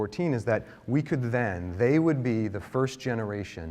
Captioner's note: none